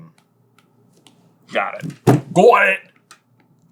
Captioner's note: accented